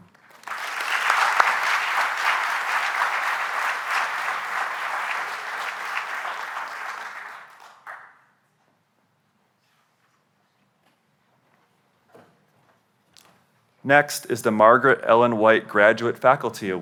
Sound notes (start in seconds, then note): 0.0 applause